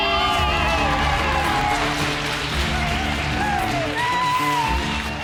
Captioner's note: cheerleaders applaud and cheer